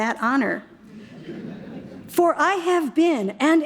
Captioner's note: audience chuckles